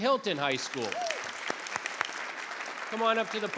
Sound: applause

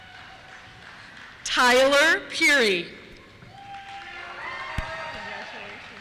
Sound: cheers

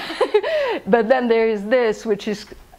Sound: laughs

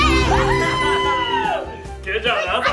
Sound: mom cheers

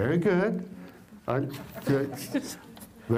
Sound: laugther

